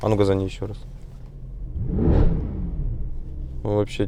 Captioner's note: rrroarrrr